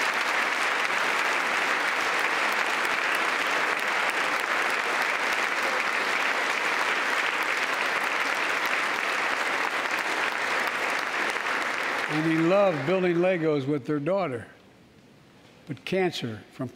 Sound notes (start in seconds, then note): 2.3 applause